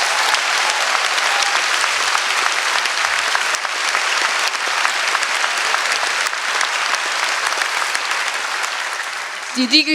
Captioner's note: applause; speaking in German